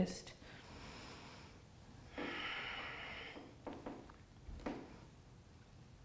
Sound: breathing

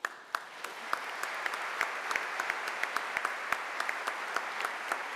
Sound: audience applauding

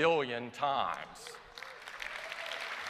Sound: applause

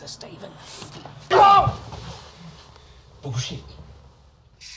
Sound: cries out

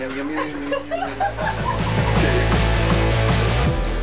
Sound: group laughs

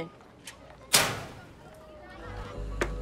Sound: locker clanging

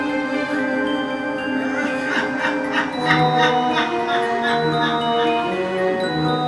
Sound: laughs

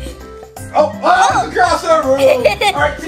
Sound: laughing

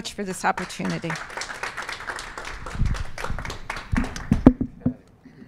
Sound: applause

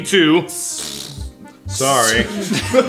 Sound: farting noise

